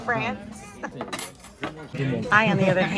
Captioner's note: chuckles